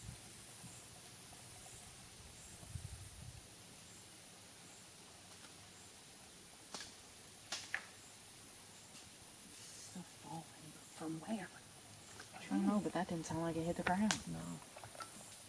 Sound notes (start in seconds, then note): 7.5 loud branch snapping